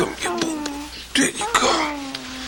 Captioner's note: crying stops